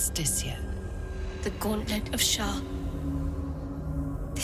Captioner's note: none